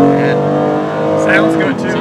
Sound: engine revving

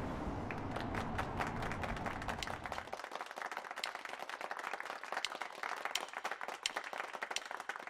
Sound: clapping

